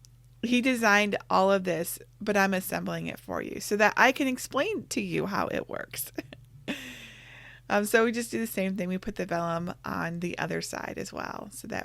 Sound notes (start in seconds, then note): 7.2 laughs